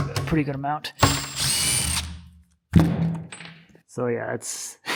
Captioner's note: electric screwdriver whirs